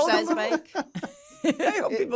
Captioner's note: laughter